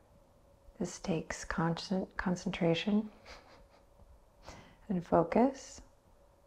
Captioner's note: chuckles